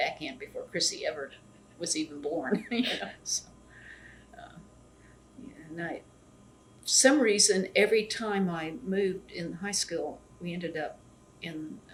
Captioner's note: laughs